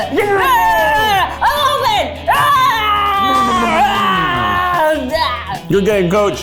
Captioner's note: screams